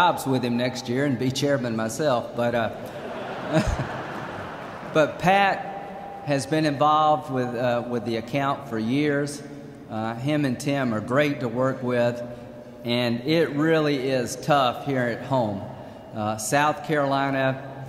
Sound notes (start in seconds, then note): 2.8 laughter